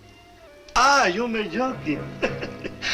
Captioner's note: speaks Spanish; chuckles